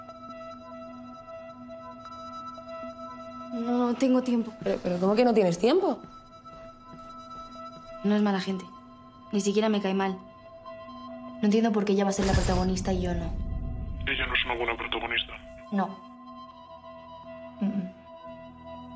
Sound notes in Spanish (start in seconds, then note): 13.8 voz masculina distorsionada